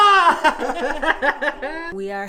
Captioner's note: they both laugh